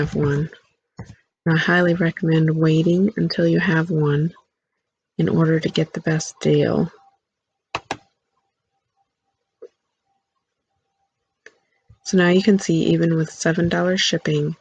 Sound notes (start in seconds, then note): 0.0 click; 11.4 click